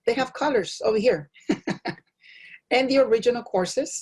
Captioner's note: laugh